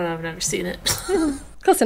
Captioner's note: laughing